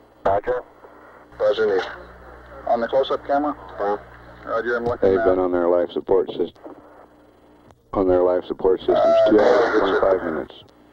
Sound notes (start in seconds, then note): 1.0 mission Control Audio